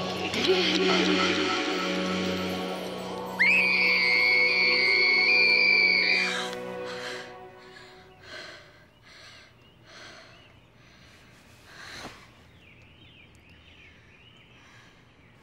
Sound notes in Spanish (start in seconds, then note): 0.0 música espeluznante; 3.3 gritando; 6.3 jadeo